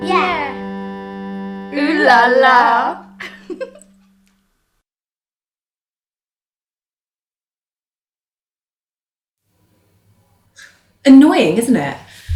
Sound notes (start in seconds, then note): 3.2 giggles